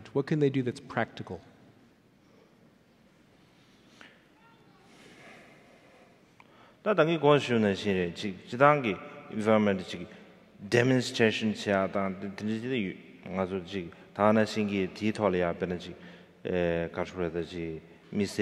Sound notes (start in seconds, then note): 5.0 sighing; 7.0 speaking in foreign language